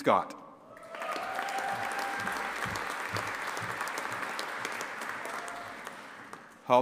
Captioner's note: audience applauding and cheering